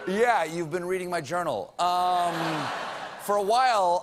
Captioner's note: audience booing